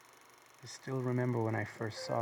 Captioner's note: film projector clicking; Charles Voiceover